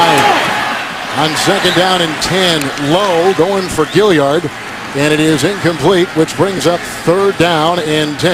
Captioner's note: crowd yelling